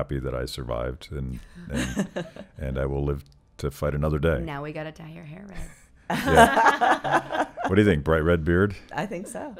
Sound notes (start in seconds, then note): 6.2 laughing